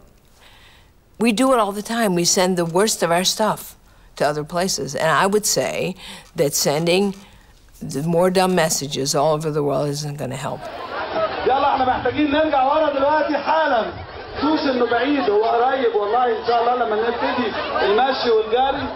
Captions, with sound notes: We... we do it all the time. We send the worst of our stuff to other places. And I would say that sending more dumb messages all over the world isn't gonna help. (background chatter) (Arabic)